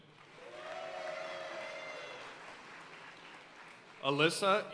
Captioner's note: audience cheering and applauding